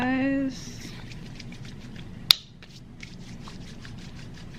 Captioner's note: hands rub